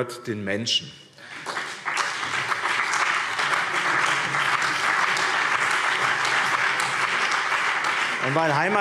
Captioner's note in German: Beifall BÜNDNIS 90/DIE GRÜNEN, CDU und vereinzelt SPD